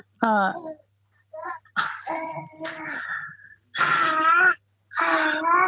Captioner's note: baby cooing